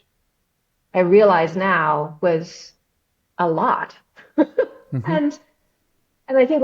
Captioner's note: laughs